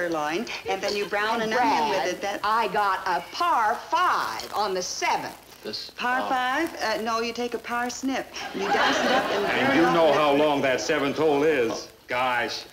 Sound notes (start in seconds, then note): 8.4 audience laughing